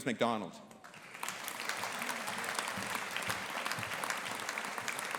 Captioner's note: audience applauding